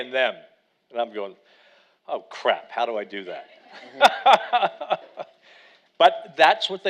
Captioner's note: laughs